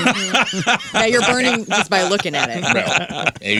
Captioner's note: laughing